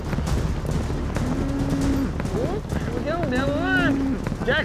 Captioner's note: chattering